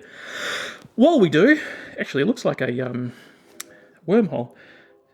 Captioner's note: deep Breath